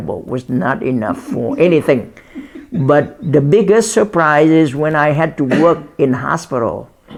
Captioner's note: laughs